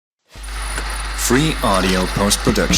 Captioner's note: laughs